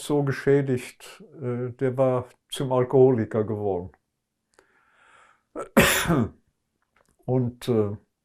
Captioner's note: coughing